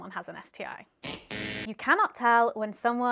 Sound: buzzer buzzing

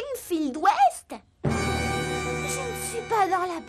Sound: overly dramatic sound

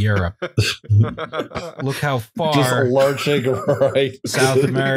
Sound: laughter

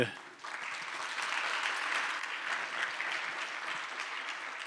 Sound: applause

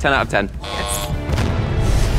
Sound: buzzer sounds; dramatic music continues

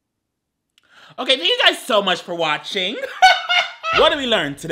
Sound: laughing

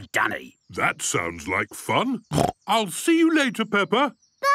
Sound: snorting

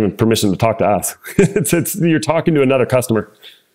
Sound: laugh

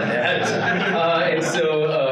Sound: participants laughing

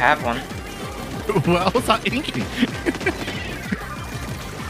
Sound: chuckles

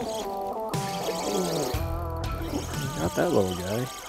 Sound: fishing line whines

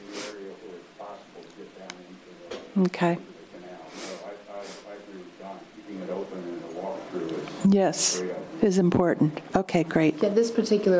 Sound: away from microphone

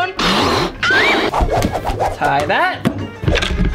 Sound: air blowing

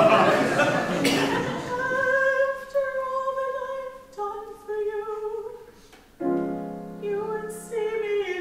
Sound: audience laughs

